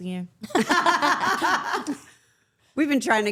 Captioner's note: everyone laughing